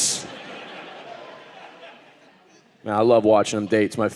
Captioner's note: audience laughing